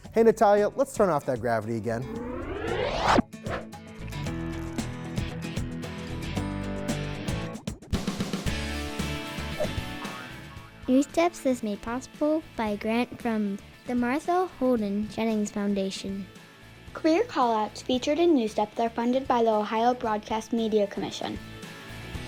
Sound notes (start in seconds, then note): 2.0 anti-gravity whooshes; 4.3 upbeat music